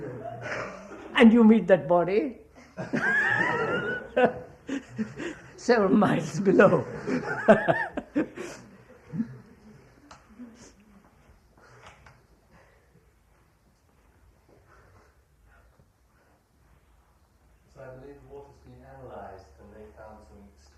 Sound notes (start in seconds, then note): 2.6 laughter; 2.6 laughs